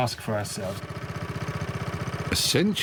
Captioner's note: boat rumbling